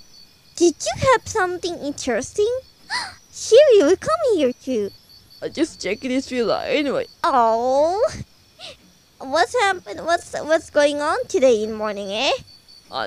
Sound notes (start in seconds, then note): 2.9 gasp